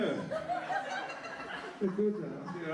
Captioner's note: laughter